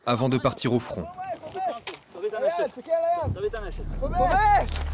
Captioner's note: Hebrew